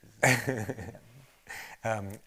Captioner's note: chuckles